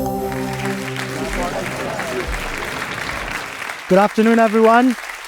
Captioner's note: ethereal electronic music; people applaud